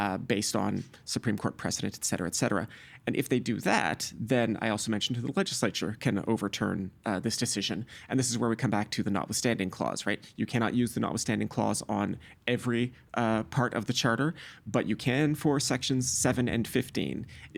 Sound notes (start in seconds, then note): none